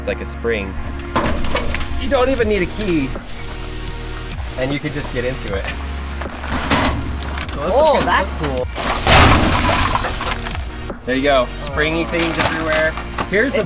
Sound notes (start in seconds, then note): 9.1 tray crashes